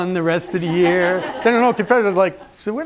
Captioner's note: laughter